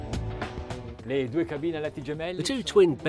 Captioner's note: chill music; speaking foreign language